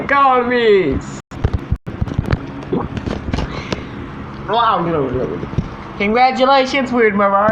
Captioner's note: drinking, Gulping And Blabbering